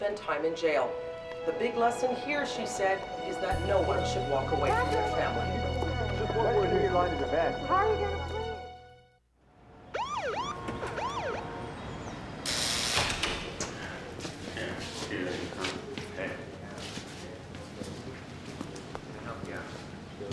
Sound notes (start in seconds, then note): 9.8 siren wails; 11.4 buzzing